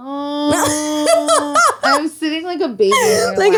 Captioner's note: laughs